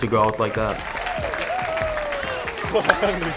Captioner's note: cheering